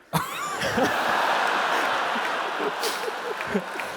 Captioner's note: laughs